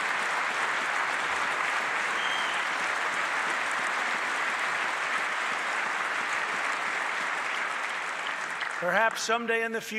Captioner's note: applause